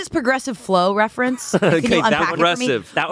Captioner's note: laughs